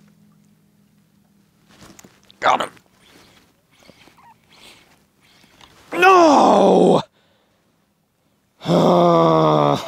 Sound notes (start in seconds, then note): 5.9 groans and laughs